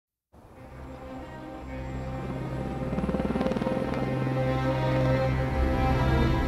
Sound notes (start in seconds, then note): 2.5 helicopter whirring